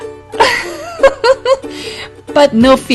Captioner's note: laugh